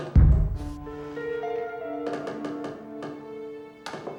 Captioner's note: creaking